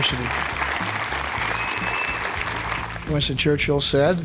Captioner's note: audience clapping and whistling